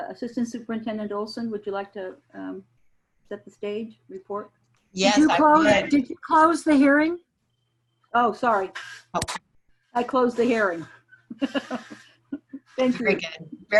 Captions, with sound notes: Assistant Superintendent Olson, would you like to set the stage, report? - Yes I would. - Did you close the hearing? - Oh, sorry (clapping). I close the hearing. (laughing) Thank you.